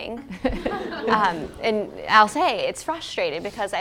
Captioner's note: laugh